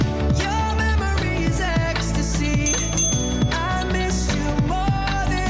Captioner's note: ding ding!